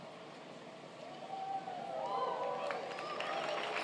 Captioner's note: applauding